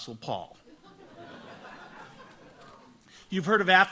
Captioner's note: audience laughs